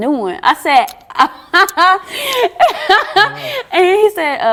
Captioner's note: laughter